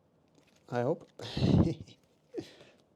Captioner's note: chuckles